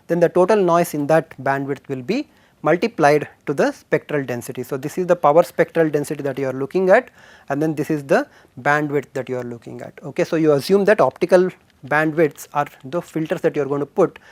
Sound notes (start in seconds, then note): 7.8 current noise variance